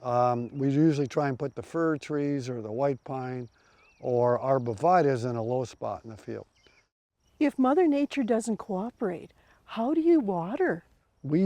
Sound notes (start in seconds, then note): none